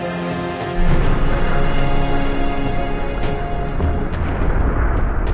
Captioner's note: distant explosion